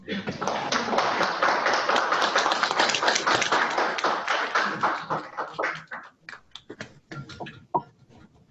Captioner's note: applause